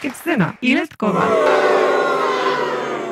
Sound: audience gasp, boo

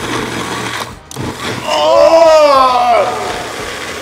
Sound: gagging

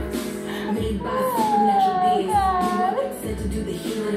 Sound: whining

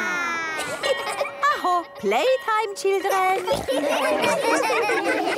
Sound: school bell

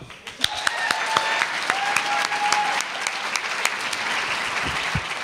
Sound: audience applauding

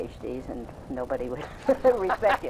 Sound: laughs

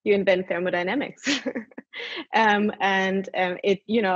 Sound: laughs

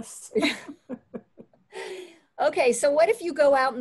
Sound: laughing

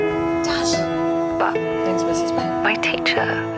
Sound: Ava on phone

